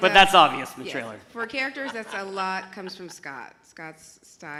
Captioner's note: laughs